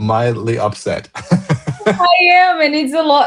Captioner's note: laughter